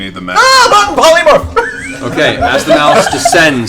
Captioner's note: yelps